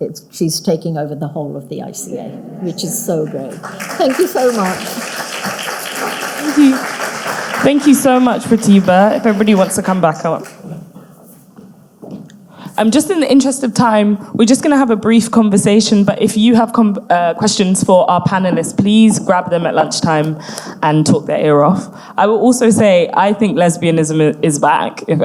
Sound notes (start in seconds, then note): 5.3 audience clapping